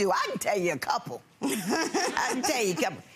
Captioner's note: laughing